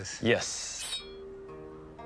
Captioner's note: blade resounds